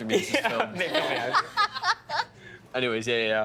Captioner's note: all laughing